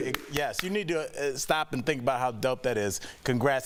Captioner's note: applause